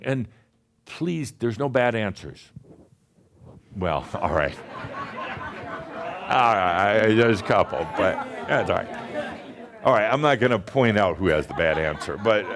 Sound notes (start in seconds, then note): 4.2 laughter; 11.1 more chuckles